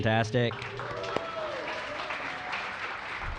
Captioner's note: applause